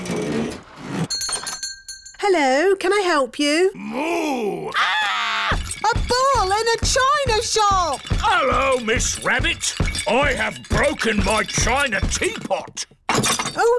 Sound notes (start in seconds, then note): 1.1 shop bell rings; 4.6 screams; 5.5 thumping